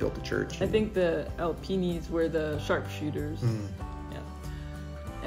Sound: hmmm

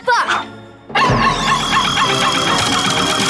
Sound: barking

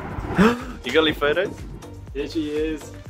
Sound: gasps

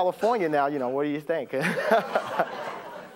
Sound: laughs

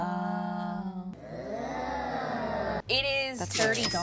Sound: speaking in unison

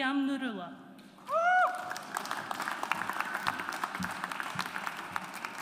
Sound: audience applauds

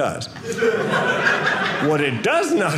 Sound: audience laughing

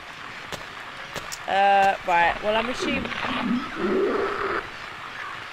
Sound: loud Monster sound

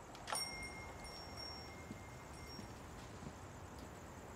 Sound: doorbell chimes

